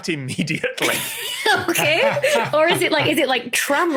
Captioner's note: guests laughing